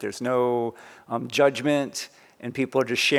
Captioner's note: none